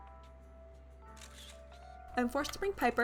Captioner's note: camera shutter